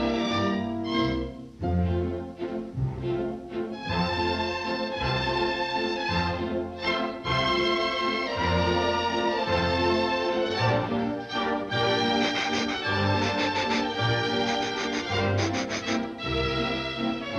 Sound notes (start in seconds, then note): 14.1 dog sniffing